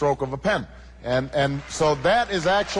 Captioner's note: cheers